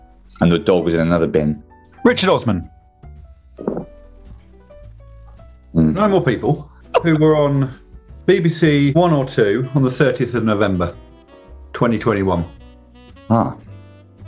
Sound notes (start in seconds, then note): none